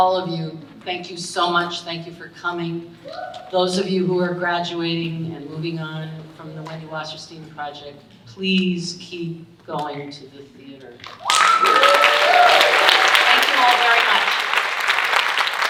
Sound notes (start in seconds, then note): 11.0 audience cheering and applauding